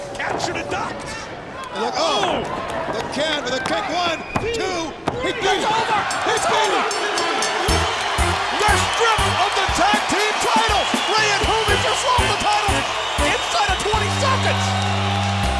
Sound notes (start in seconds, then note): 7.0 bell ringing